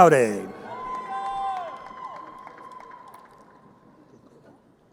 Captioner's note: crowd cheering